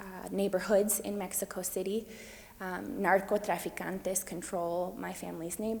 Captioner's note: speaks foreign language